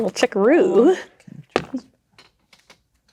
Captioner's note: dice rolling